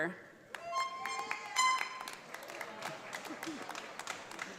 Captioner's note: audience applauds